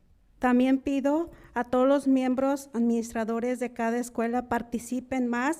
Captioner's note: speaking in foreign language